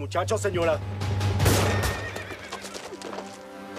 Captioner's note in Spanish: Disparo